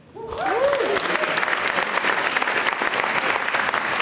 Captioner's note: audience applauding